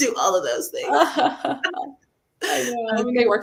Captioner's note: laughs